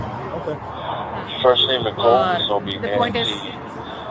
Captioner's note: radio chatter